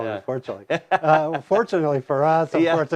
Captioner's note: laughs